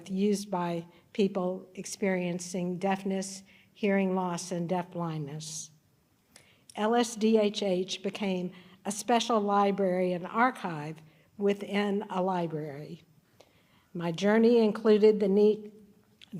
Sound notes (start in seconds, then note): none